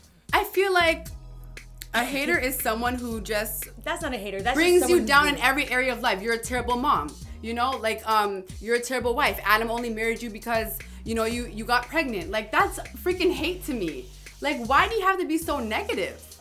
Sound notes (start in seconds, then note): none